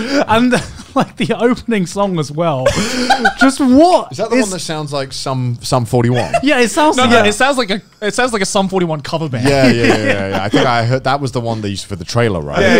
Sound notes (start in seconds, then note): 0.0 laughing; 2.7 laughing